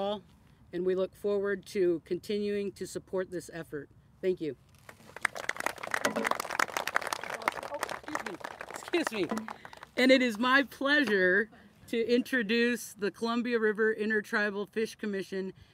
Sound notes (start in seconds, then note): 6.4 applauses